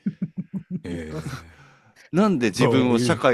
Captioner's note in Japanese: 笑い